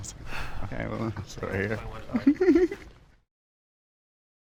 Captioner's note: people chattering